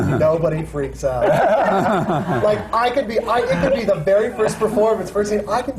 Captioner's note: laughter